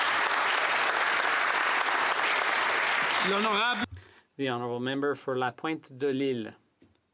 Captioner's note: some Applause